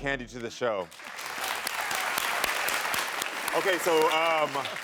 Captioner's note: audience clapping